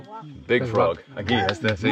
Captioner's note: slaps leg; speaking foreign language